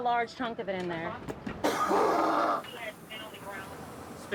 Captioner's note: coughs